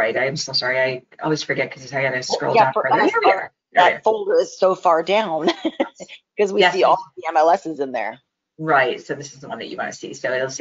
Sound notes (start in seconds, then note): 5.4 chuckles